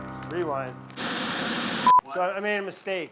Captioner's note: slow somber music; static hisses